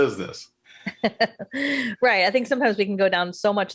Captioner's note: laughs